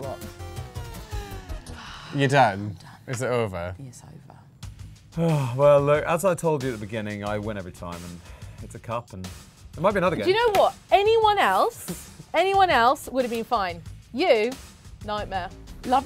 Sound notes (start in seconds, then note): 0.0 music winds down; 1.6 sighs; 5.0 sighs